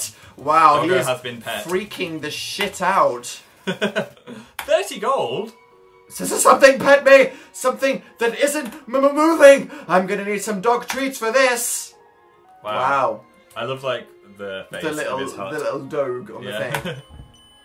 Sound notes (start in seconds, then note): 3.6 laughs